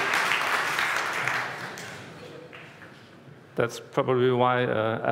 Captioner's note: applause